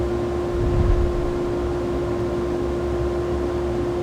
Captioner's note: air whooshing